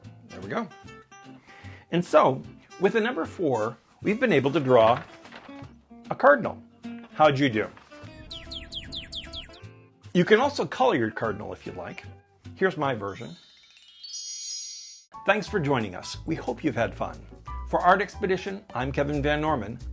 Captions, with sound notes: There we go. And so, with a number four, We've been able to draw a cardinal. How'd you do? (Cardinal: Chirps) You can also color your cardinal if you like. Here's my version. (CHIME) Thanks for joining us! We hope you've had fun. For Art Expedition, I'm Kevin Van Norman.